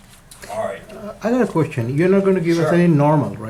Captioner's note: voiceover